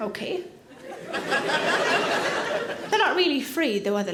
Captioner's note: audience laughing